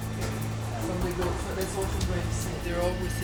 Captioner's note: indistinct chatter